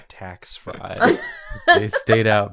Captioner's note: laughter